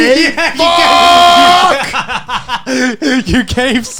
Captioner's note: laughs